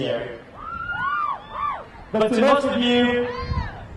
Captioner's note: crowd cheering